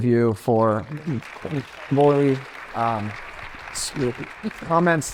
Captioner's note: attendees applauding